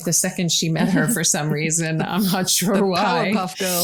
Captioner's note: laughs